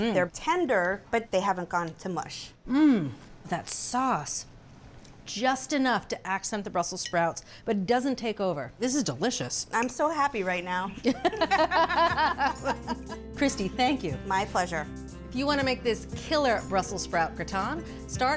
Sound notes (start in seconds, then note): 11.0 laugh